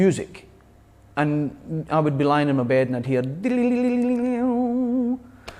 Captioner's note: vocalizes